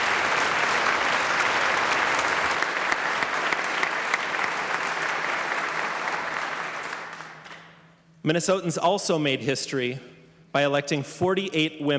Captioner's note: applause